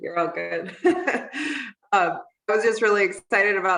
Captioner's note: giggling